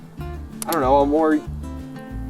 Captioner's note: device clicks